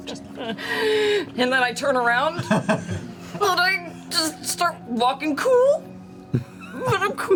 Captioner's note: strained